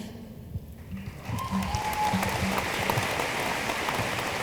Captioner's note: room applauds